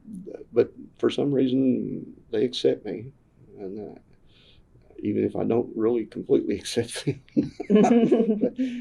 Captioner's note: laughter